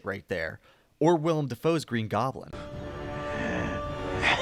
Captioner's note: play green goblin laugh